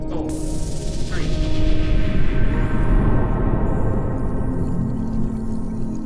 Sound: soft dramatic music; intense whooshing

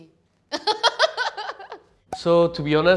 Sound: laughs

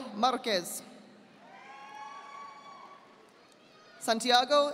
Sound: audience applauding

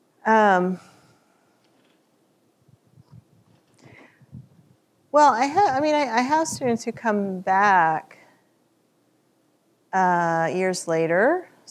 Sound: chuckles

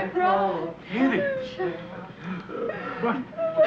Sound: Edith crying

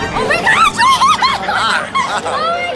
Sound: screams

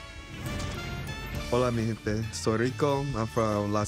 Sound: speaking in foreign language

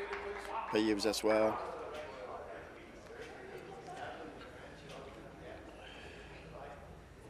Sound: applause

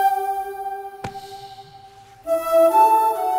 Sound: sighs deeply

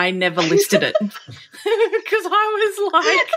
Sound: laughing

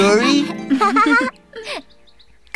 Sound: all laugh

